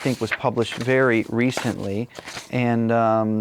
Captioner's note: pages turn